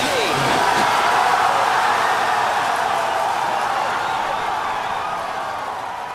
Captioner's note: applause